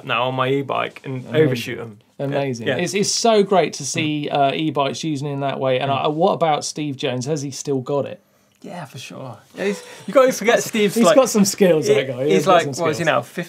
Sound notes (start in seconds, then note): 9.6 laughs